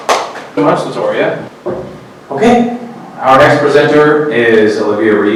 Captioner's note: clapping